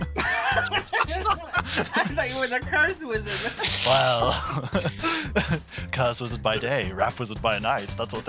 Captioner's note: laughter